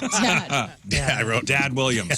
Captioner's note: laughing